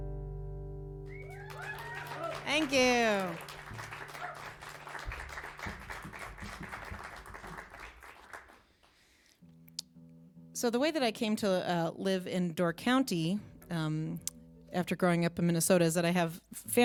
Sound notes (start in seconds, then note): 1.0 cheers and applause